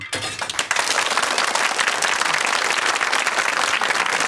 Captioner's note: audience clapping